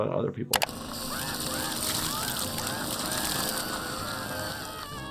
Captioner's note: Nutty screaming